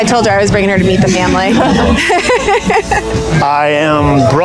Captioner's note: laughing